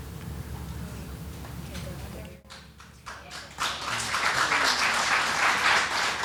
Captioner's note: audience claps